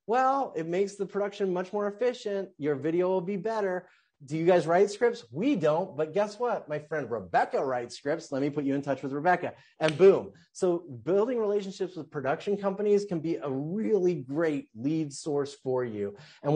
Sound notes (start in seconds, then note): none